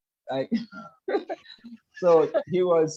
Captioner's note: laugh